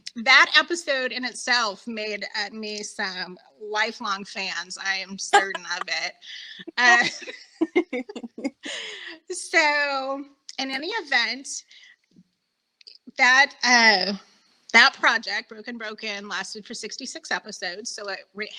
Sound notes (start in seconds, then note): 9.3 both laughing